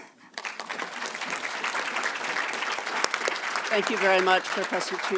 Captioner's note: audience clapping